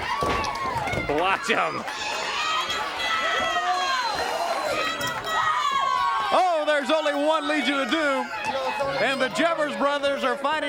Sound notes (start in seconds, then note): 0.1 crowd cheering; 2.8 crowd chatter